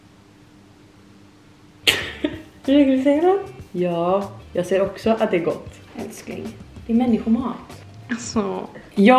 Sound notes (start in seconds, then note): 1.9 laughter